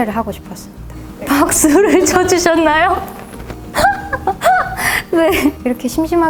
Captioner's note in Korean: 웃음